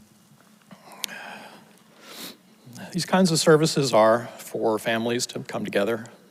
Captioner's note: sighs; sniffles